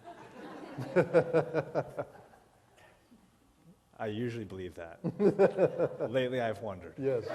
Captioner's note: laughter